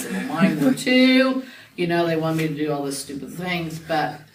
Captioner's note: laughs